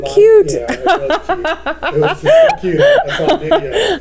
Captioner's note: laughing